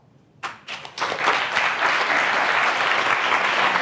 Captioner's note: applause